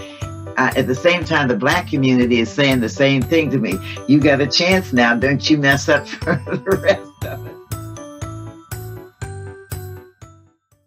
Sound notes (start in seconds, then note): 6.3 laughs